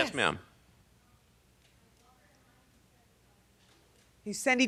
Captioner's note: person speaking off mic